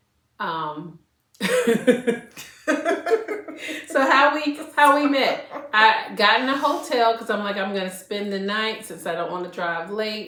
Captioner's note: laughter